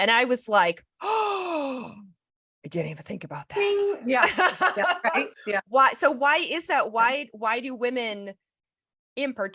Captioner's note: sighs; laughs